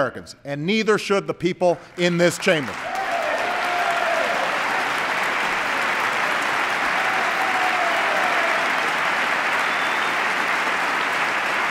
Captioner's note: applause